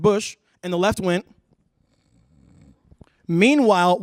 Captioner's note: snoring